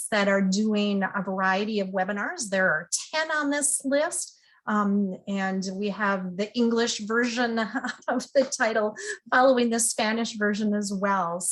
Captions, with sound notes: that are doing a variety of webinars. There are 10 on this list, and we have the English version (laughs) of the title following the Spanish version as well.